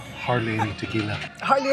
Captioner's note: laughs